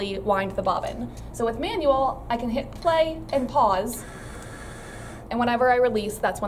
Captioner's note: whirring noise